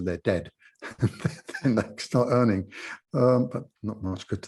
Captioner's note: laughs